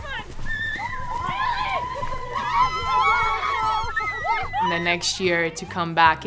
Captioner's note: women cheer and laugh